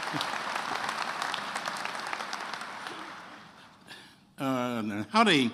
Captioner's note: attendees applauding